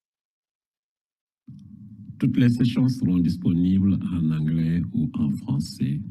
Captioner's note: man speaking in foreign language